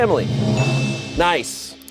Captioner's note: bell chimes